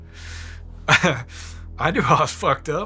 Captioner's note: laughs